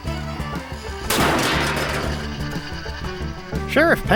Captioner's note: whack